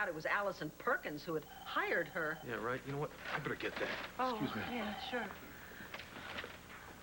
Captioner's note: phone rings